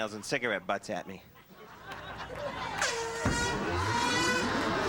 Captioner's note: blows air horn